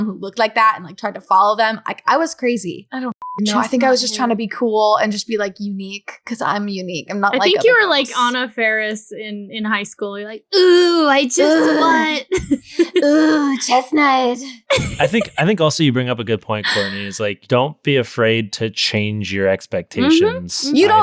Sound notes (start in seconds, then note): 3.2 beep; 14.5 laughing